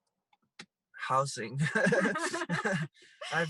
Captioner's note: laughs